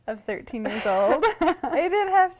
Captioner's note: laughter